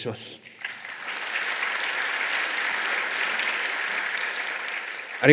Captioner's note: clapping sound